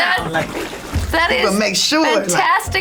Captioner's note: water splashing